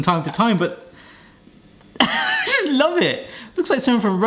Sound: laughs

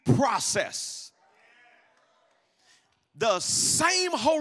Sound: congregation muttering in agreement

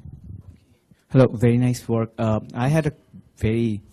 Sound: voiceover

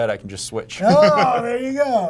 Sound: laughter

